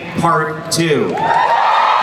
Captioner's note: crowd cheering